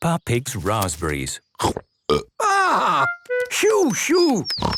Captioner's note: burps